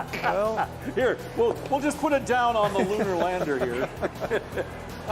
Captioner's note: laughter